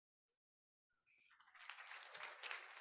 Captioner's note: applause